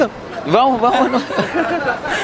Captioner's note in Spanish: risas